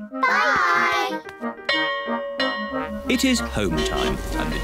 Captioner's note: bell rings